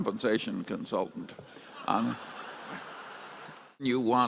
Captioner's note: laughter and applause